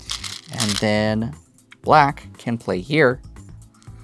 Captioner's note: stones rattling